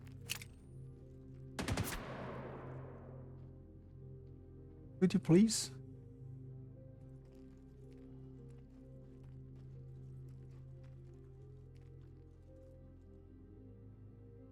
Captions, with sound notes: [gunshot] Could you please?